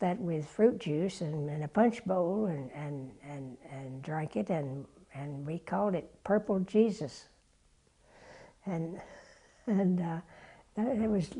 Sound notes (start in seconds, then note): 9.0 laugh